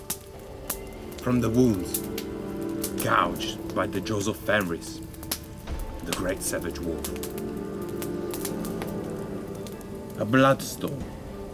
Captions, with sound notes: from the wounds gouged by the Joseph families, in the great savag e war. (fire crackling) (gentle music) A blood storm,